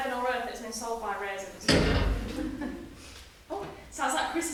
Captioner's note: bang from overhead